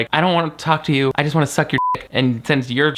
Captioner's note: beep